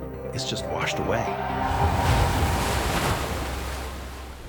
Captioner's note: suspenseful music; water exploding